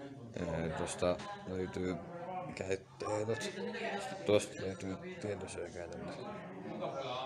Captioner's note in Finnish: englanniksi